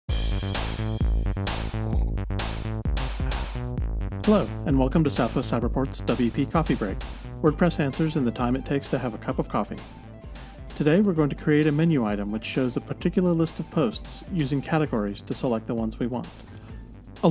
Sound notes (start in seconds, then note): 1.7 slurp